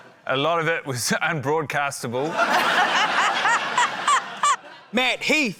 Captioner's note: laughter